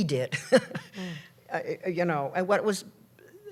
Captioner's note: laughs